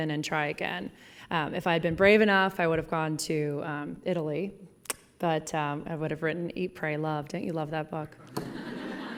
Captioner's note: laughing